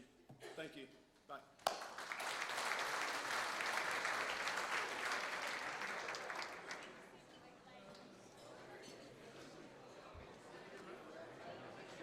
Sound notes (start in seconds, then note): 1.6 applause